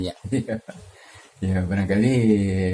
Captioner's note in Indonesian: tertawa